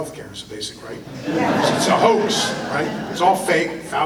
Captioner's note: audience laughter